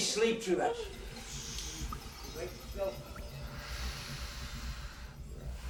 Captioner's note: snoring